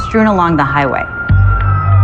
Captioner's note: siren wawailing